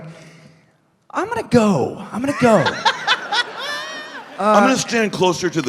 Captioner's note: bursting into laughter